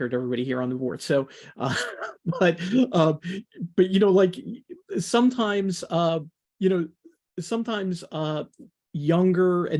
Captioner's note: laughs